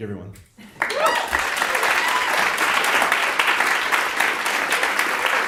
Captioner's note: audience applauding